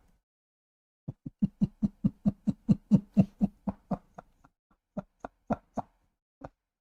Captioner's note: Ketawa